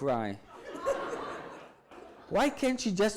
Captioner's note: audience laughs